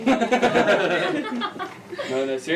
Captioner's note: laughing